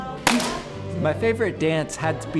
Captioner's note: clapping